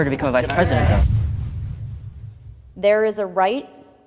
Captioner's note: whoosh air